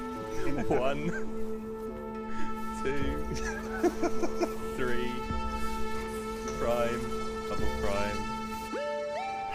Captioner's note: laughter